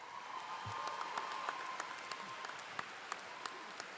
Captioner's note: applause